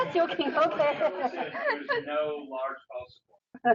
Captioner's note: laughing